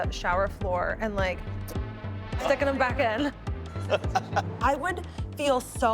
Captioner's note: laughing